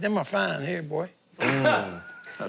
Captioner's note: laughing